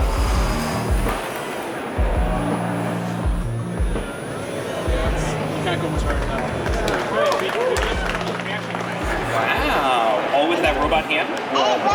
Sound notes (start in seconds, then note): 4.8 clapping and cheering